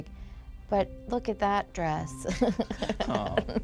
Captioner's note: laughs